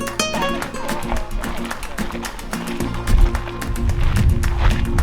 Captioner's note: people chattering